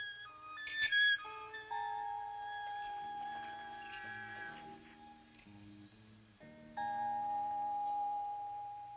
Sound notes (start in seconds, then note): 0.8 key jingles